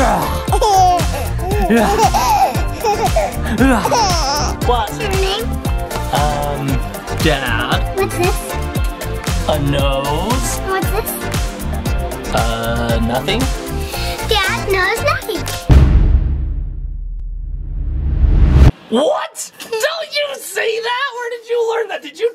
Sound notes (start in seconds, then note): 0.2 giggles and coos; 15.6 boom sound effect